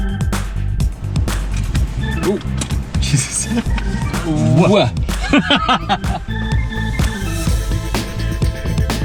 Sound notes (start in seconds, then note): 3.0 laughing